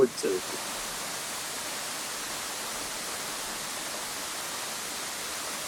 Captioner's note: water crashing